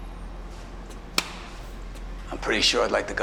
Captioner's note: claps